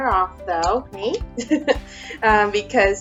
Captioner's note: chuckles